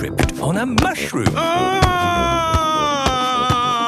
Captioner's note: shouting